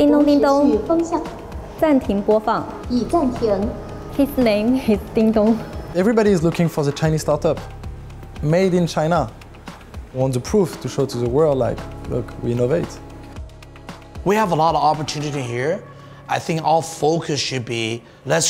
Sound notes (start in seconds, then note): 0.1 speaking in Chinese